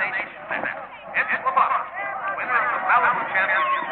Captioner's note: announcer speaking